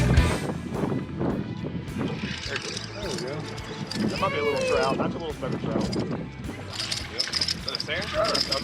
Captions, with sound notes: (reel squealing) - There you go. (woman cheering) (indistinct conversation)